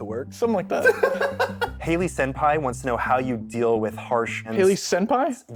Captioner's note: laughs